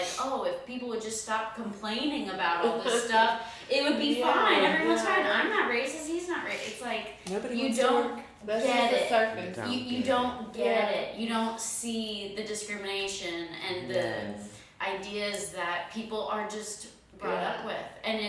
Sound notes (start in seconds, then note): 2.6 chuckles; 10.4 speaking faintly